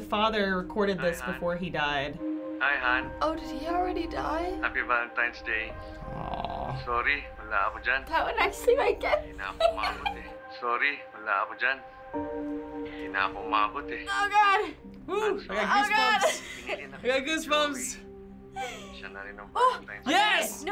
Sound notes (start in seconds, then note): 9.3 giggle; 11.4 speaking Filipino